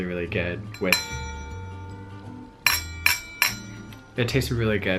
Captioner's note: metal clanging